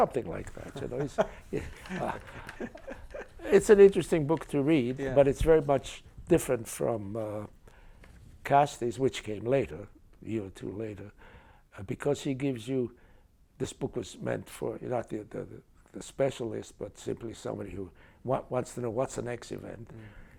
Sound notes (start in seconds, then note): 0.3 chuckles